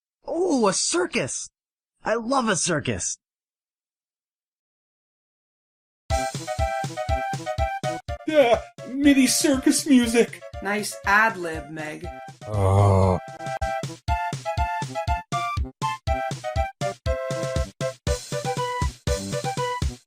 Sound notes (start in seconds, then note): 12.4 groans